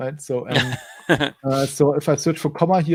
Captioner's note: laughs